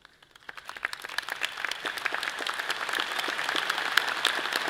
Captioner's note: all clapping